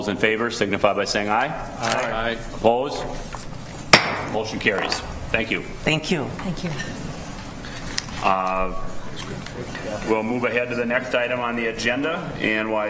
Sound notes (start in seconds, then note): 3.9 gavel striking sound block